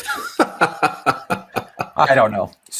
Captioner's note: laughing amusingly